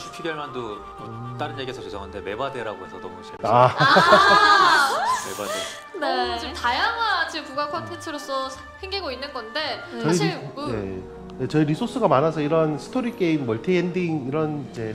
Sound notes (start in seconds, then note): 3.5 laughter